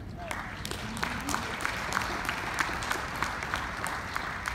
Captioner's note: audience applauding